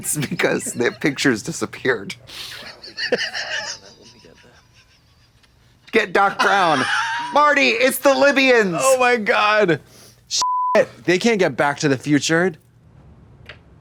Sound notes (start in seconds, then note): 2.7 Katya cackles; 10.4 beep